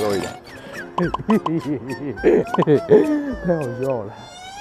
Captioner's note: hehehehehe